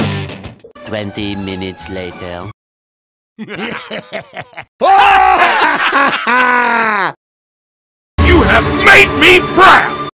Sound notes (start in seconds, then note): 6.0 laughing happily